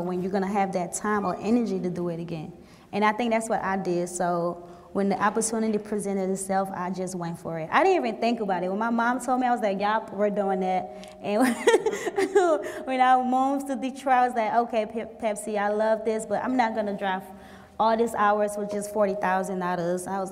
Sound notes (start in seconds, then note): 11.0 laughs